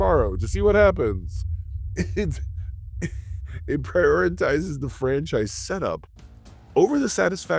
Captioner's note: laughs